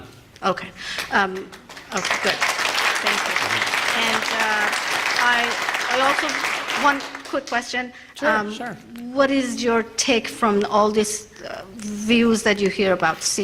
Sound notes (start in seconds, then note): 1.3 applause